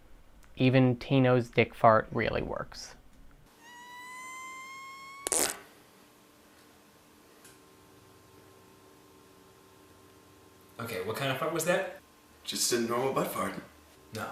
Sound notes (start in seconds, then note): 3.6 fart noise